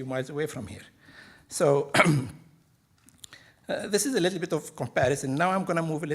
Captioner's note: clears throat